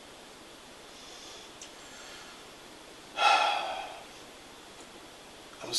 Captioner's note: deep sigh